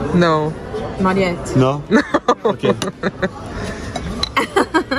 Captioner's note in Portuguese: rindo